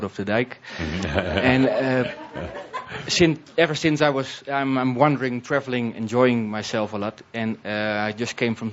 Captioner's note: Tobias chuckles